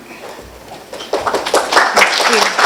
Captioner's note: applause